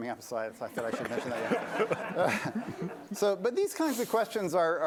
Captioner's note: laughter